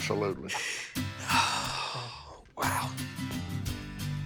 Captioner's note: sighs